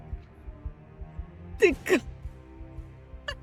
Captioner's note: laughs